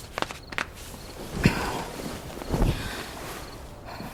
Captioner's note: rustling sheets